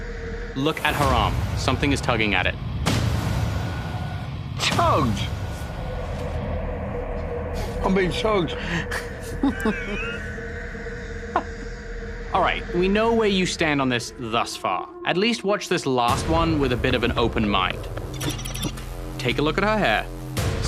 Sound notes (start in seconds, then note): 9.2 Sharon chuckles